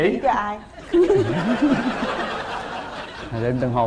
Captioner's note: laughing